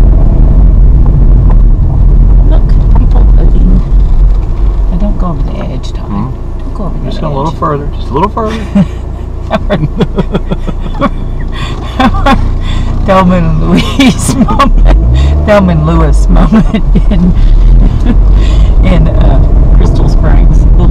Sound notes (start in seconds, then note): 9.4 both laugh; 9.5 laughs; 13.8 laughs